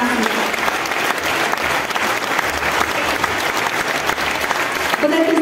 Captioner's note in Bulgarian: аплодисменти